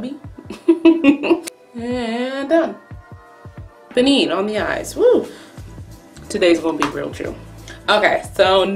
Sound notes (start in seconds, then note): 0.5 laughs